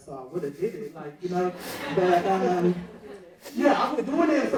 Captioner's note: audience laughing